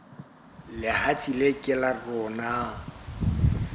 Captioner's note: non-english speech